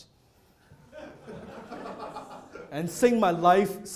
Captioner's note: audience laughing